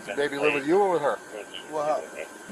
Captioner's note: radio chatter